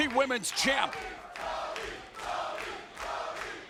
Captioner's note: crowd chants